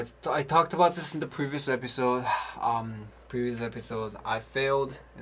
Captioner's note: sighs